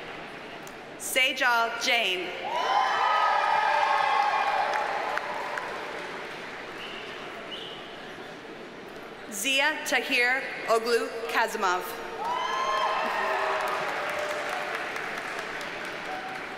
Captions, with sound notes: Seyjal Jain. (audience cheers and applauds) Ziya Tahir Oglu Kazimov. (audience cheers and applauds)